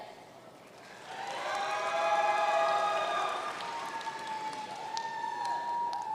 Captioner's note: audience cheering and applauding